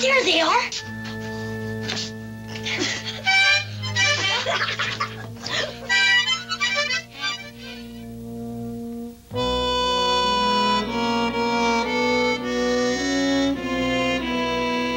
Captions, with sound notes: - There they are. (harmonica honking) (both laughing) (mellow music)